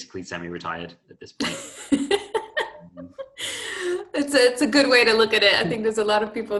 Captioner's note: laughter